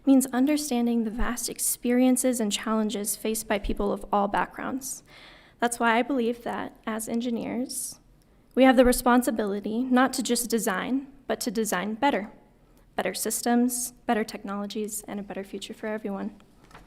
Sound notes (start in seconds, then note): none